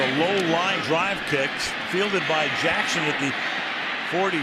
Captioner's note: pa announcement